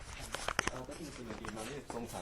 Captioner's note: speaking faintly